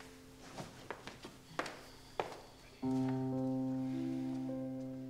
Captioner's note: footsteps plodding